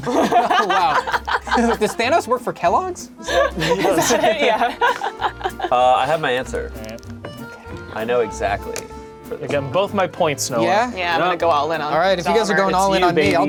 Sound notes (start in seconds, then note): 0.0 laughing